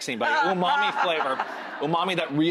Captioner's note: Rachael laughing